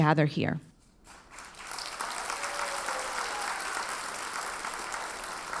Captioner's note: audience applauds